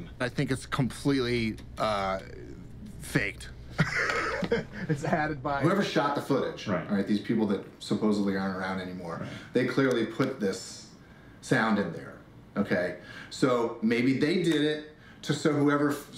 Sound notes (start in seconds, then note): 3.7 laughs